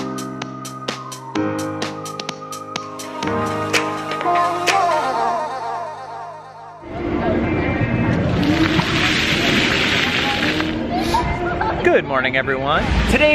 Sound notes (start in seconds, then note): 0.0 cheerful music; 6.8 crowd bustling; 8.1 water splashing